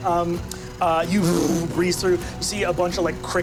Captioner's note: buzzes